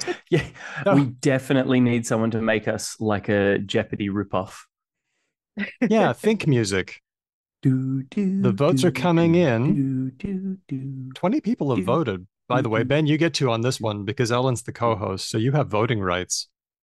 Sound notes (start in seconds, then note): 5.9 laughs; 8.3 imitates jeopardy think music